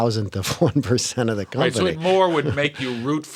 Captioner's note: laughter